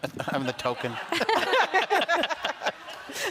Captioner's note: laughter